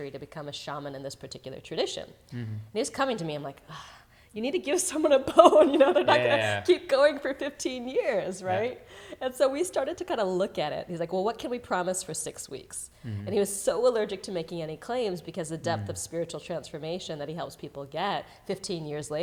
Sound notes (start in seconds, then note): 5.2 laughs